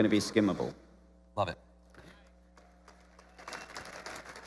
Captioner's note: applause